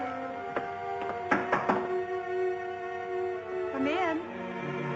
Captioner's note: knocking